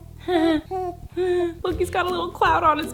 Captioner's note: Colleen laughs; baby coos